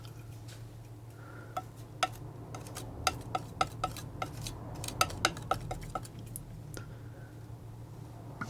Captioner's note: tapping